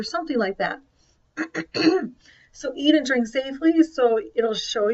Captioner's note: clears throat